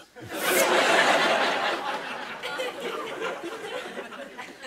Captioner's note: laughter